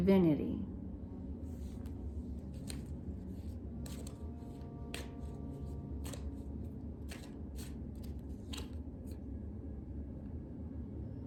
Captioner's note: cards shuffling